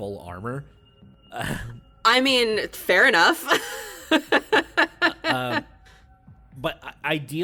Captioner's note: laughs